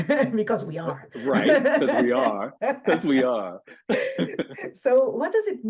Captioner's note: laughs